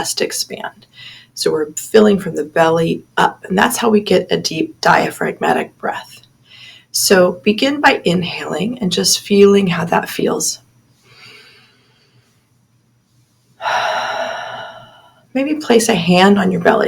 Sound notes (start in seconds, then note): 13.5 inhale/Exhale